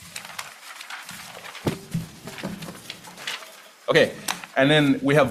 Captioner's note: papers whirring